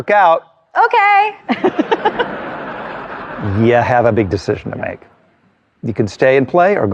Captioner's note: all chuckling